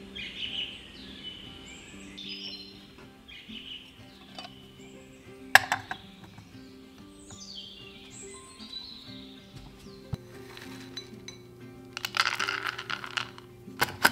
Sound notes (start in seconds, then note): 3.8 tea cups clink against plates; 11.9 pistachios fall onto cutting board